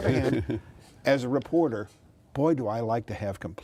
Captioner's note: laughing